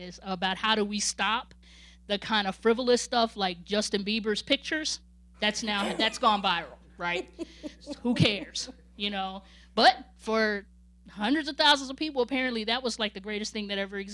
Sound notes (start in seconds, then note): 7.4 laughing